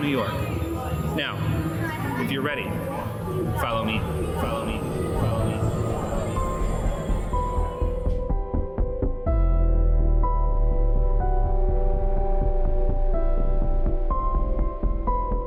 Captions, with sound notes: Now, if you're ready, follow me. (voice echoing) (scary music)